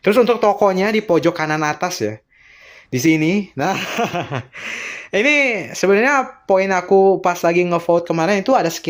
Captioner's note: laughs